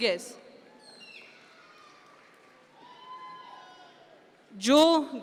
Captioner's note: audience members cheer